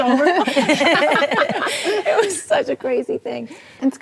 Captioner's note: ladies laughing